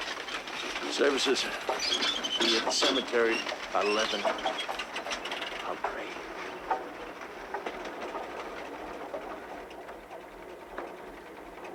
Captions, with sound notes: Services will be at the cemetery at 11. I'll pray. (engine rumbling)